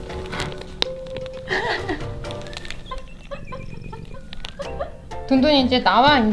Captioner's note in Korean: 웃음